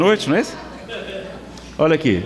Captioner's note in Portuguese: risadas